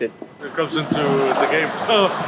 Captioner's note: laughs